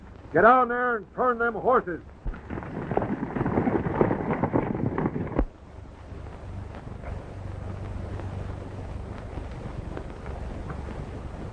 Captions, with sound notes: - Get over there and turn them horses! [horses galloping]